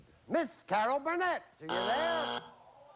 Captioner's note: buzzer